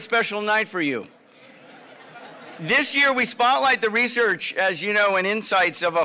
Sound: laugh

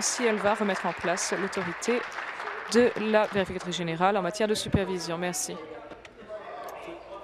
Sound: applause

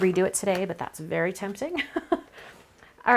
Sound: chuckles

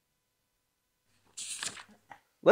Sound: page turning

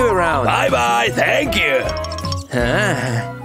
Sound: grunting

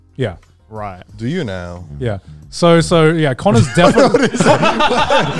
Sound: all laughing

